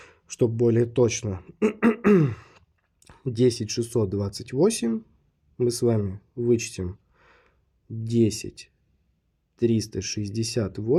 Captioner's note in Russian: откашливается; кашель